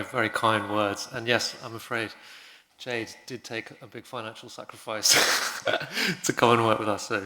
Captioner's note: laugh